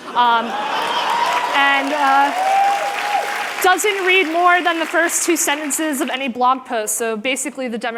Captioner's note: applause